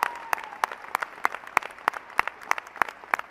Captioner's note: applause